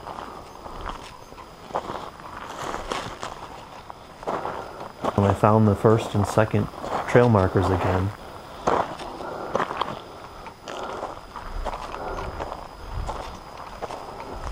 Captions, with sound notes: and I found the first and second trail markers again. (footsteps thudding)